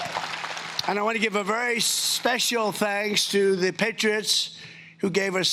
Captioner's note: cheering and Applause